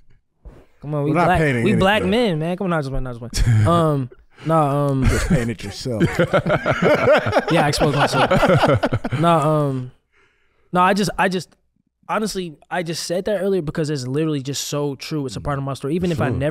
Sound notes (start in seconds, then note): 1.2 and crew laugh; 7.2 laughs